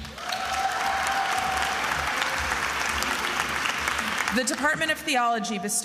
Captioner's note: attendees applauding and cheering